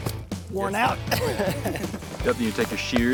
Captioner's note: laughs